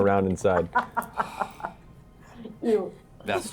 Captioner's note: laughs